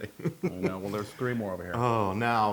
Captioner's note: laugh